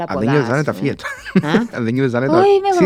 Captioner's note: laughs